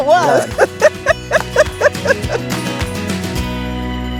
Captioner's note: laughing